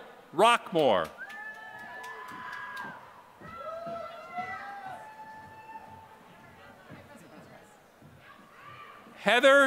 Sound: applause

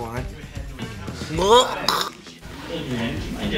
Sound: clearing throat

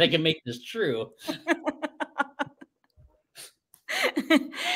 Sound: laughs

